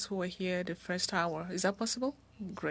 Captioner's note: speaking French